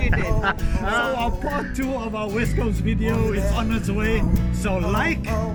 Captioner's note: all laughing